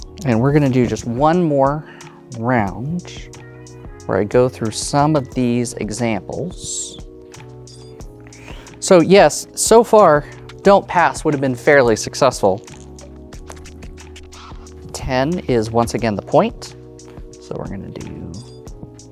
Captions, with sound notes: And, we're gonna do just one more round, where I go through some of these examples. So, yes, so far, "don't pass" would have been fairly successful. (dice rattling) (dice rolling) 10 is, once again, the point. So, we're going to do...